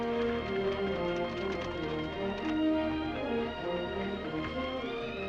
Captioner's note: gentle upbeat music; horse hooves clopping